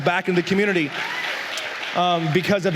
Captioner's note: la congregación aplaude